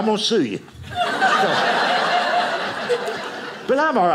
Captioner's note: audience laughing